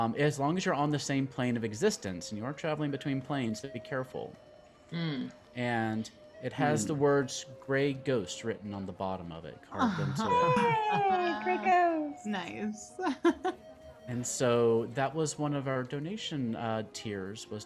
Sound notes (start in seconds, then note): 13.2 laughs